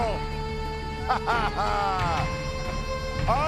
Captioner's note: laughs; irish music